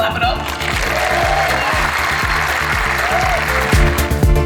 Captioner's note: majority of crowd claps